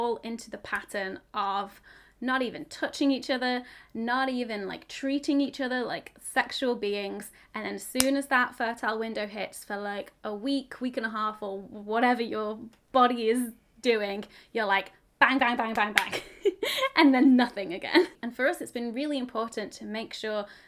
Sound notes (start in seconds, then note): 16.1 chuckles